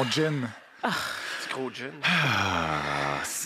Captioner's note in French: soupire